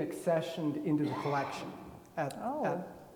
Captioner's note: attendee coughing